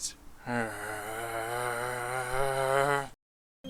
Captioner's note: grrrrr